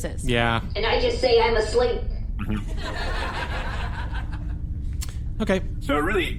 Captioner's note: audience laughter